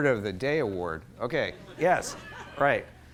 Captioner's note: laughter